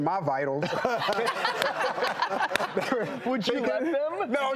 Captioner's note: loud laughing